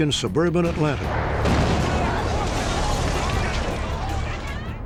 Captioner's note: explosion